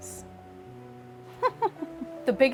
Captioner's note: laughing at photograph